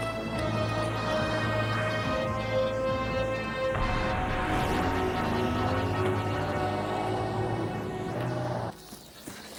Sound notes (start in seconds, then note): 5.6 car engine revving